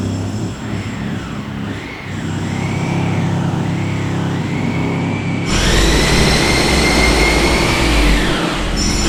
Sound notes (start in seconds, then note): 0.0 construction machines whirring; 5.4 loud drilling